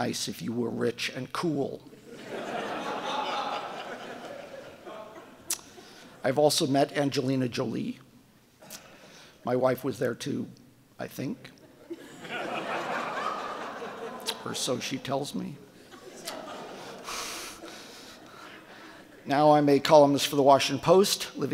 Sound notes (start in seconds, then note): 2.0 audience laughing; 11.6 audience laughing; 15.6 laughs